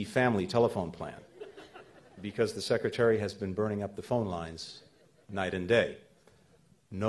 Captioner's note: laughter